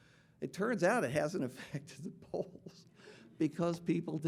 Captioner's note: chuckles